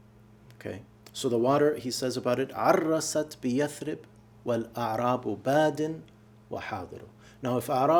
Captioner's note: speaking arabic